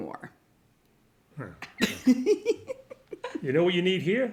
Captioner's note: cackles